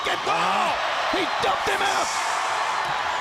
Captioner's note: crowd cheering